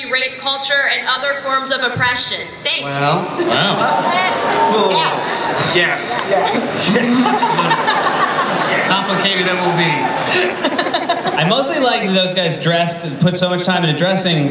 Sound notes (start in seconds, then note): 3.5 groaning; 6.5 laughter